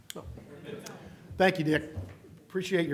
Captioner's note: laughter